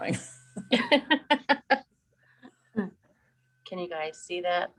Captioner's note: laughing